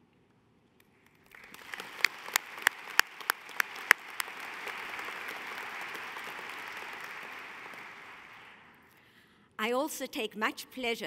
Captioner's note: applause